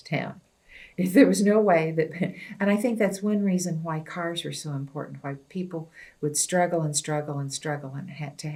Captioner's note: laughs